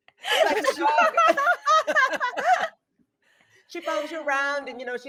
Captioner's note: people laughing